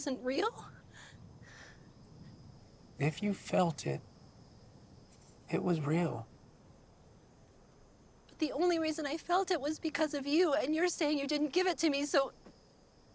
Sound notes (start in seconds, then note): none